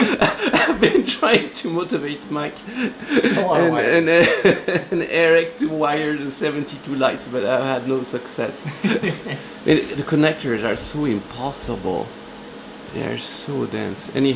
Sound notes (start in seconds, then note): 1.1 laughter